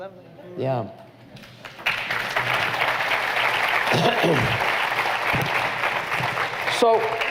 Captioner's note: applause